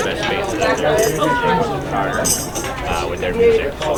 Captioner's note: people chattering